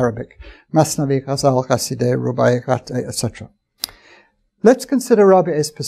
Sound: arabic speech

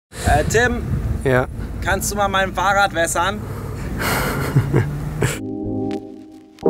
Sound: laughs

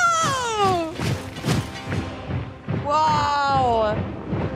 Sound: weapons thumping

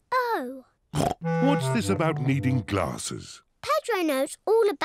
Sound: snorts

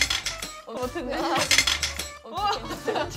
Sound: clang

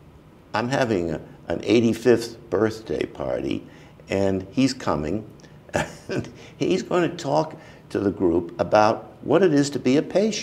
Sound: chuckle

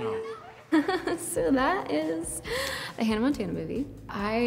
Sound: giggles

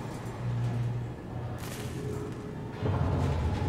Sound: distant, loud metallic groaning

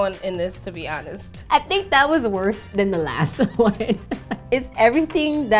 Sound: laughs

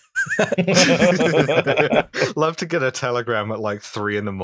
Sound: laughter

